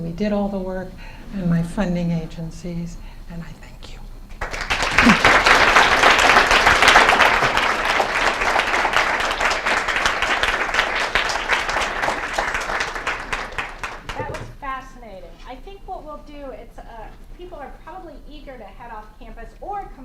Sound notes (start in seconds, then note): 4.3 applause